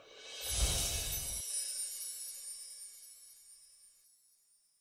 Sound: chimes tinkling

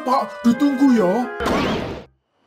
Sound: poof

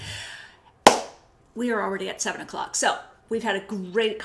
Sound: claps

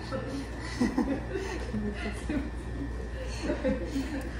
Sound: ahahaha

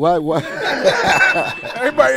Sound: laughing

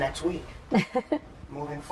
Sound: laughter

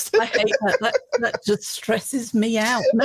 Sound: laughs

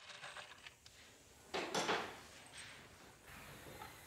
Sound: clanking in the background

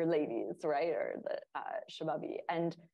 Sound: speaking in Urdu

